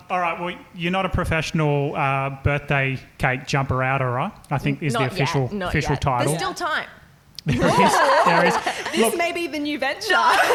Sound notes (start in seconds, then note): 7.4 laughing